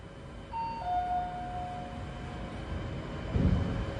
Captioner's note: elevator arrival chime